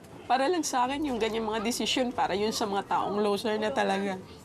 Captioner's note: speaks in foreign language